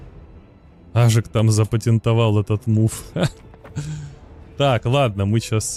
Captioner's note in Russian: смех